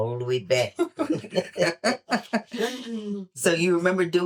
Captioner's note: laughter